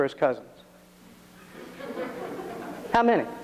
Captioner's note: audience laughs